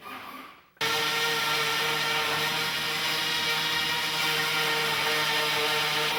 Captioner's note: loud sawing noises